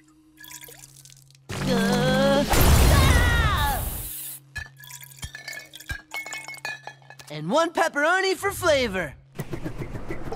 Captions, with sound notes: [groaning, screaming] [clanking] And one pepperoni for flavor.